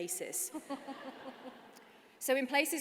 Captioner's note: laughter